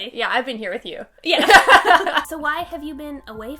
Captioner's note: laughing